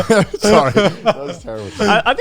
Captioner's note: all laughing